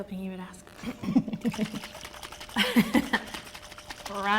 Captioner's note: laughing